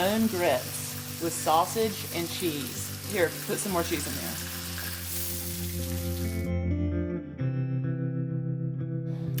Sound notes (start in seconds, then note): 4.8 sizzling food; 6.6 country music